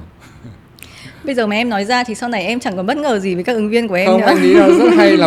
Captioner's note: laugh